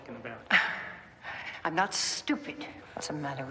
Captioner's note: scoffs